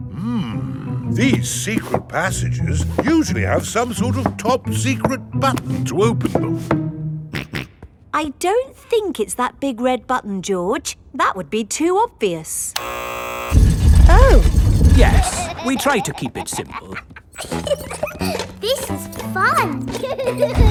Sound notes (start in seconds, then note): 7.3 snorts; 12.8 buzzer sounds; 17.6 giggles